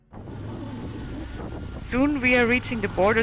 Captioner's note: bike motor revving